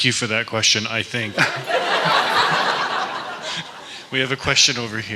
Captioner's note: laughter